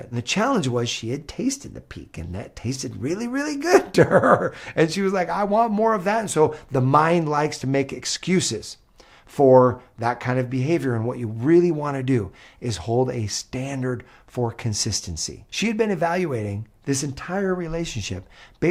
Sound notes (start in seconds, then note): 3.7 laughs